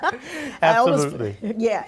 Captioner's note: laughter